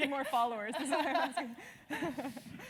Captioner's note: laugh